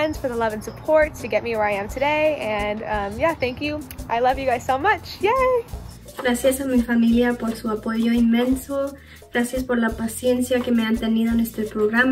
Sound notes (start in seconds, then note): 6.0 speaks in foreign language